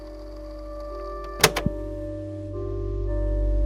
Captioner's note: click